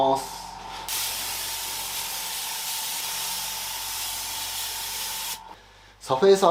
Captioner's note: paint sound